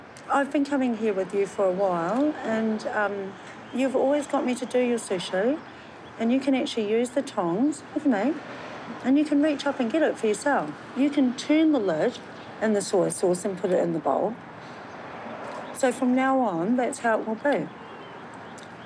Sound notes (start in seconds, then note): none